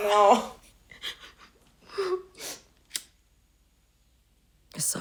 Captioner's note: laughs; sniffling